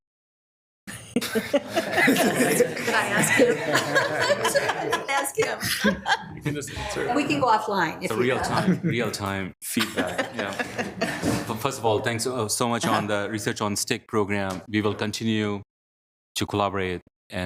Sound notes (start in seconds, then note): 1.0 laughing